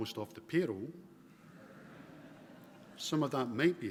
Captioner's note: laughter